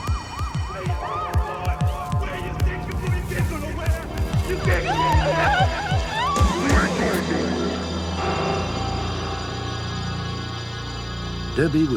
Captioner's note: yelling